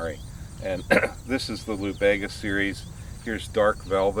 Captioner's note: coughs